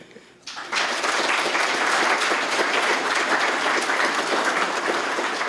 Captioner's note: applause